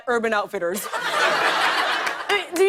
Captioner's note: laughter